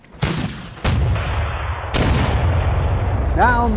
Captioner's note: cannon fire roars